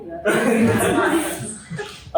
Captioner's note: laughter